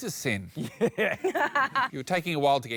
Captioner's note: laughs